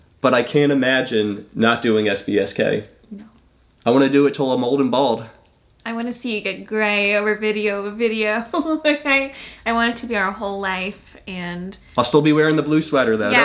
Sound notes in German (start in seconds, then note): 8.2 lacht